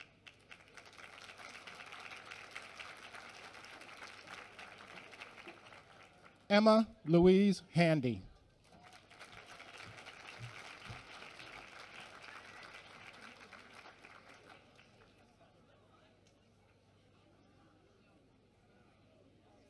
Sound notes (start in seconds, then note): 8.6 applause